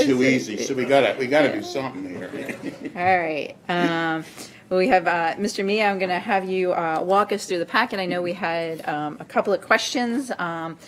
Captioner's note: laughter